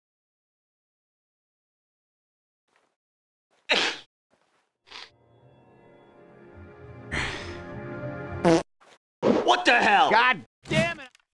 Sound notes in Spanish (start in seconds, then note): 3.7 hombre estornuda; 8.4 se tira un pedo